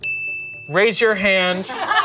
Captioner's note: bell dings